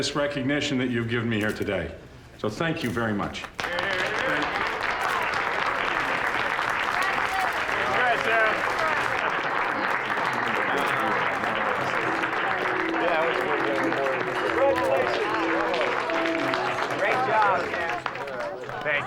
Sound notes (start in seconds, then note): 2.9 cheers and applause; 10.8 applause continues